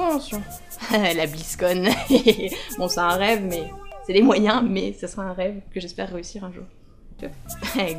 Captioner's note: evil laugh